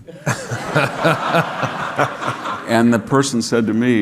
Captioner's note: audience laughing